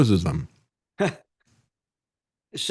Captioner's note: laughs